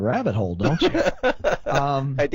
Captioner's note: laughs